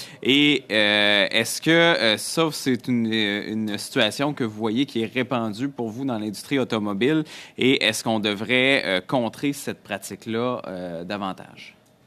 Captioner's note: speaking French